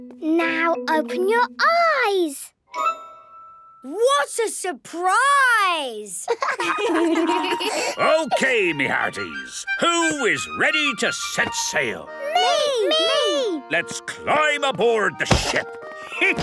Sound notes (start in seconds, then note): 6.2 laughter